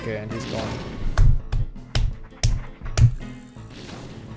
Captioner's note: claps